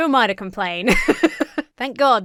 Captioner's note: laughs